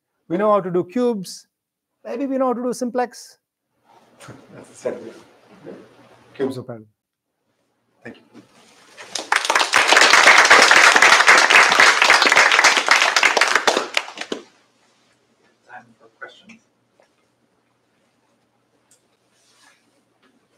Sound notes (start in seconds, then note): 8.9 applause